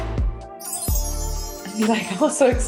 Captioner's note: chimes tinkling